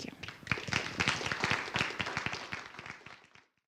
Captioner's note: applause